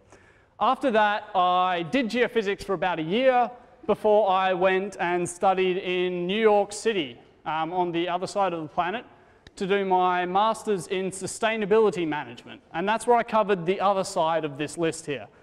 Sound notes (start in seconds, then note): none